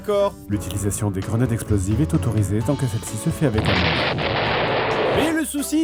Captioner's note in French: explosion